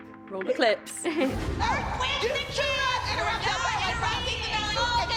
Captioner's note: chuckles; indistinct shouting